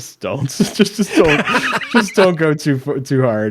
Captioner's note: laughs